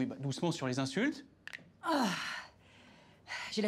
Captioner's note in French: craquement d'os